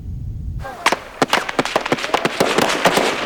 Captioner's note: machine guns firing